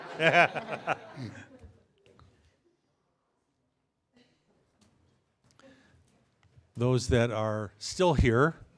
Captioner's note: laughter